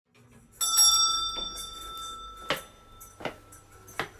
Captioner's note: shop bell rings